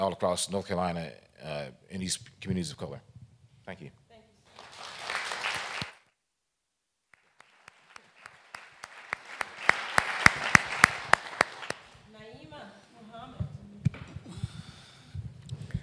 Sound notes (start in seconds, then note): 4.4 applause